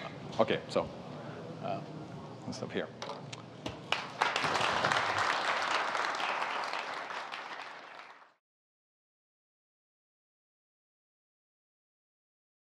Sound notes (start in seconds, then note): 3.9 applause